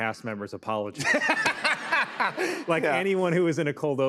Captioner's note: laughter